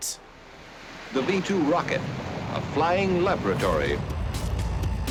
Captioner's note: radio voice